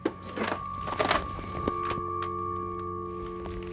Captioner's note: dial tone